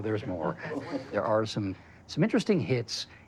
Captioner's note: chuckling